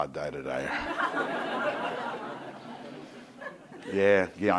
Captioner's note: crowd laughing